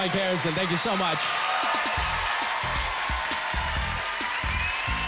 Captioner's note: applause, cheering